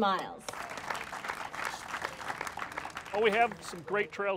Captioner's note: applauding